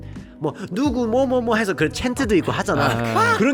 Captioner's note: chants and fan cheers